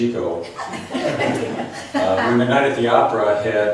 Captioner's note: laughs